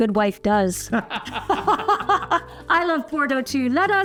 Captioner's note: both laughing